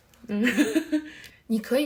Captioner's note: laughs